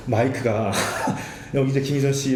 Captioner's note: laughing